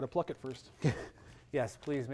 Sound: chuckles

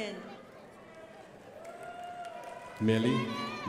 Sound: crowd applauding

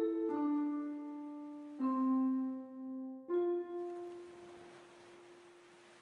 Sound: morbid music playing; water splashing

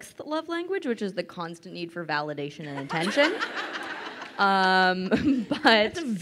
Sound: crowd laughing

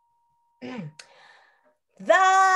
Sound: clears throat; singing

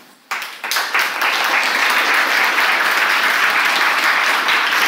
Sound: audience applauds

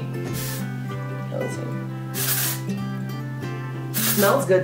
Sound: spray can hissing

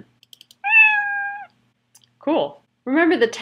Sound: meow

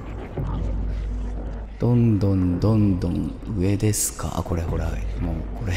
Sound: slowly, echoing

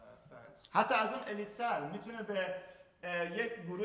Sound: speaking in farsi

